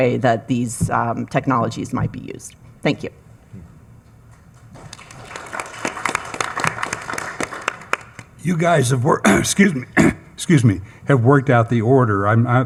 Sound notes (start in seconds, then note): 4.5 attendees clapping; 9.2 coughing